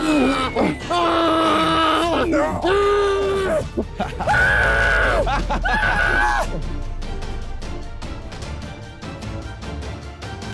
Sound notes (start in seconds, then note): 4.0 screaming